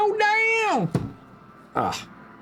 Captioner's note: meowing